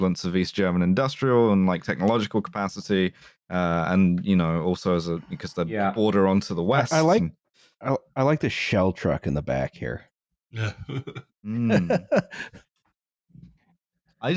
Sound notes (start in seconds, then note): 10.6 small laugh; 11.5 laughs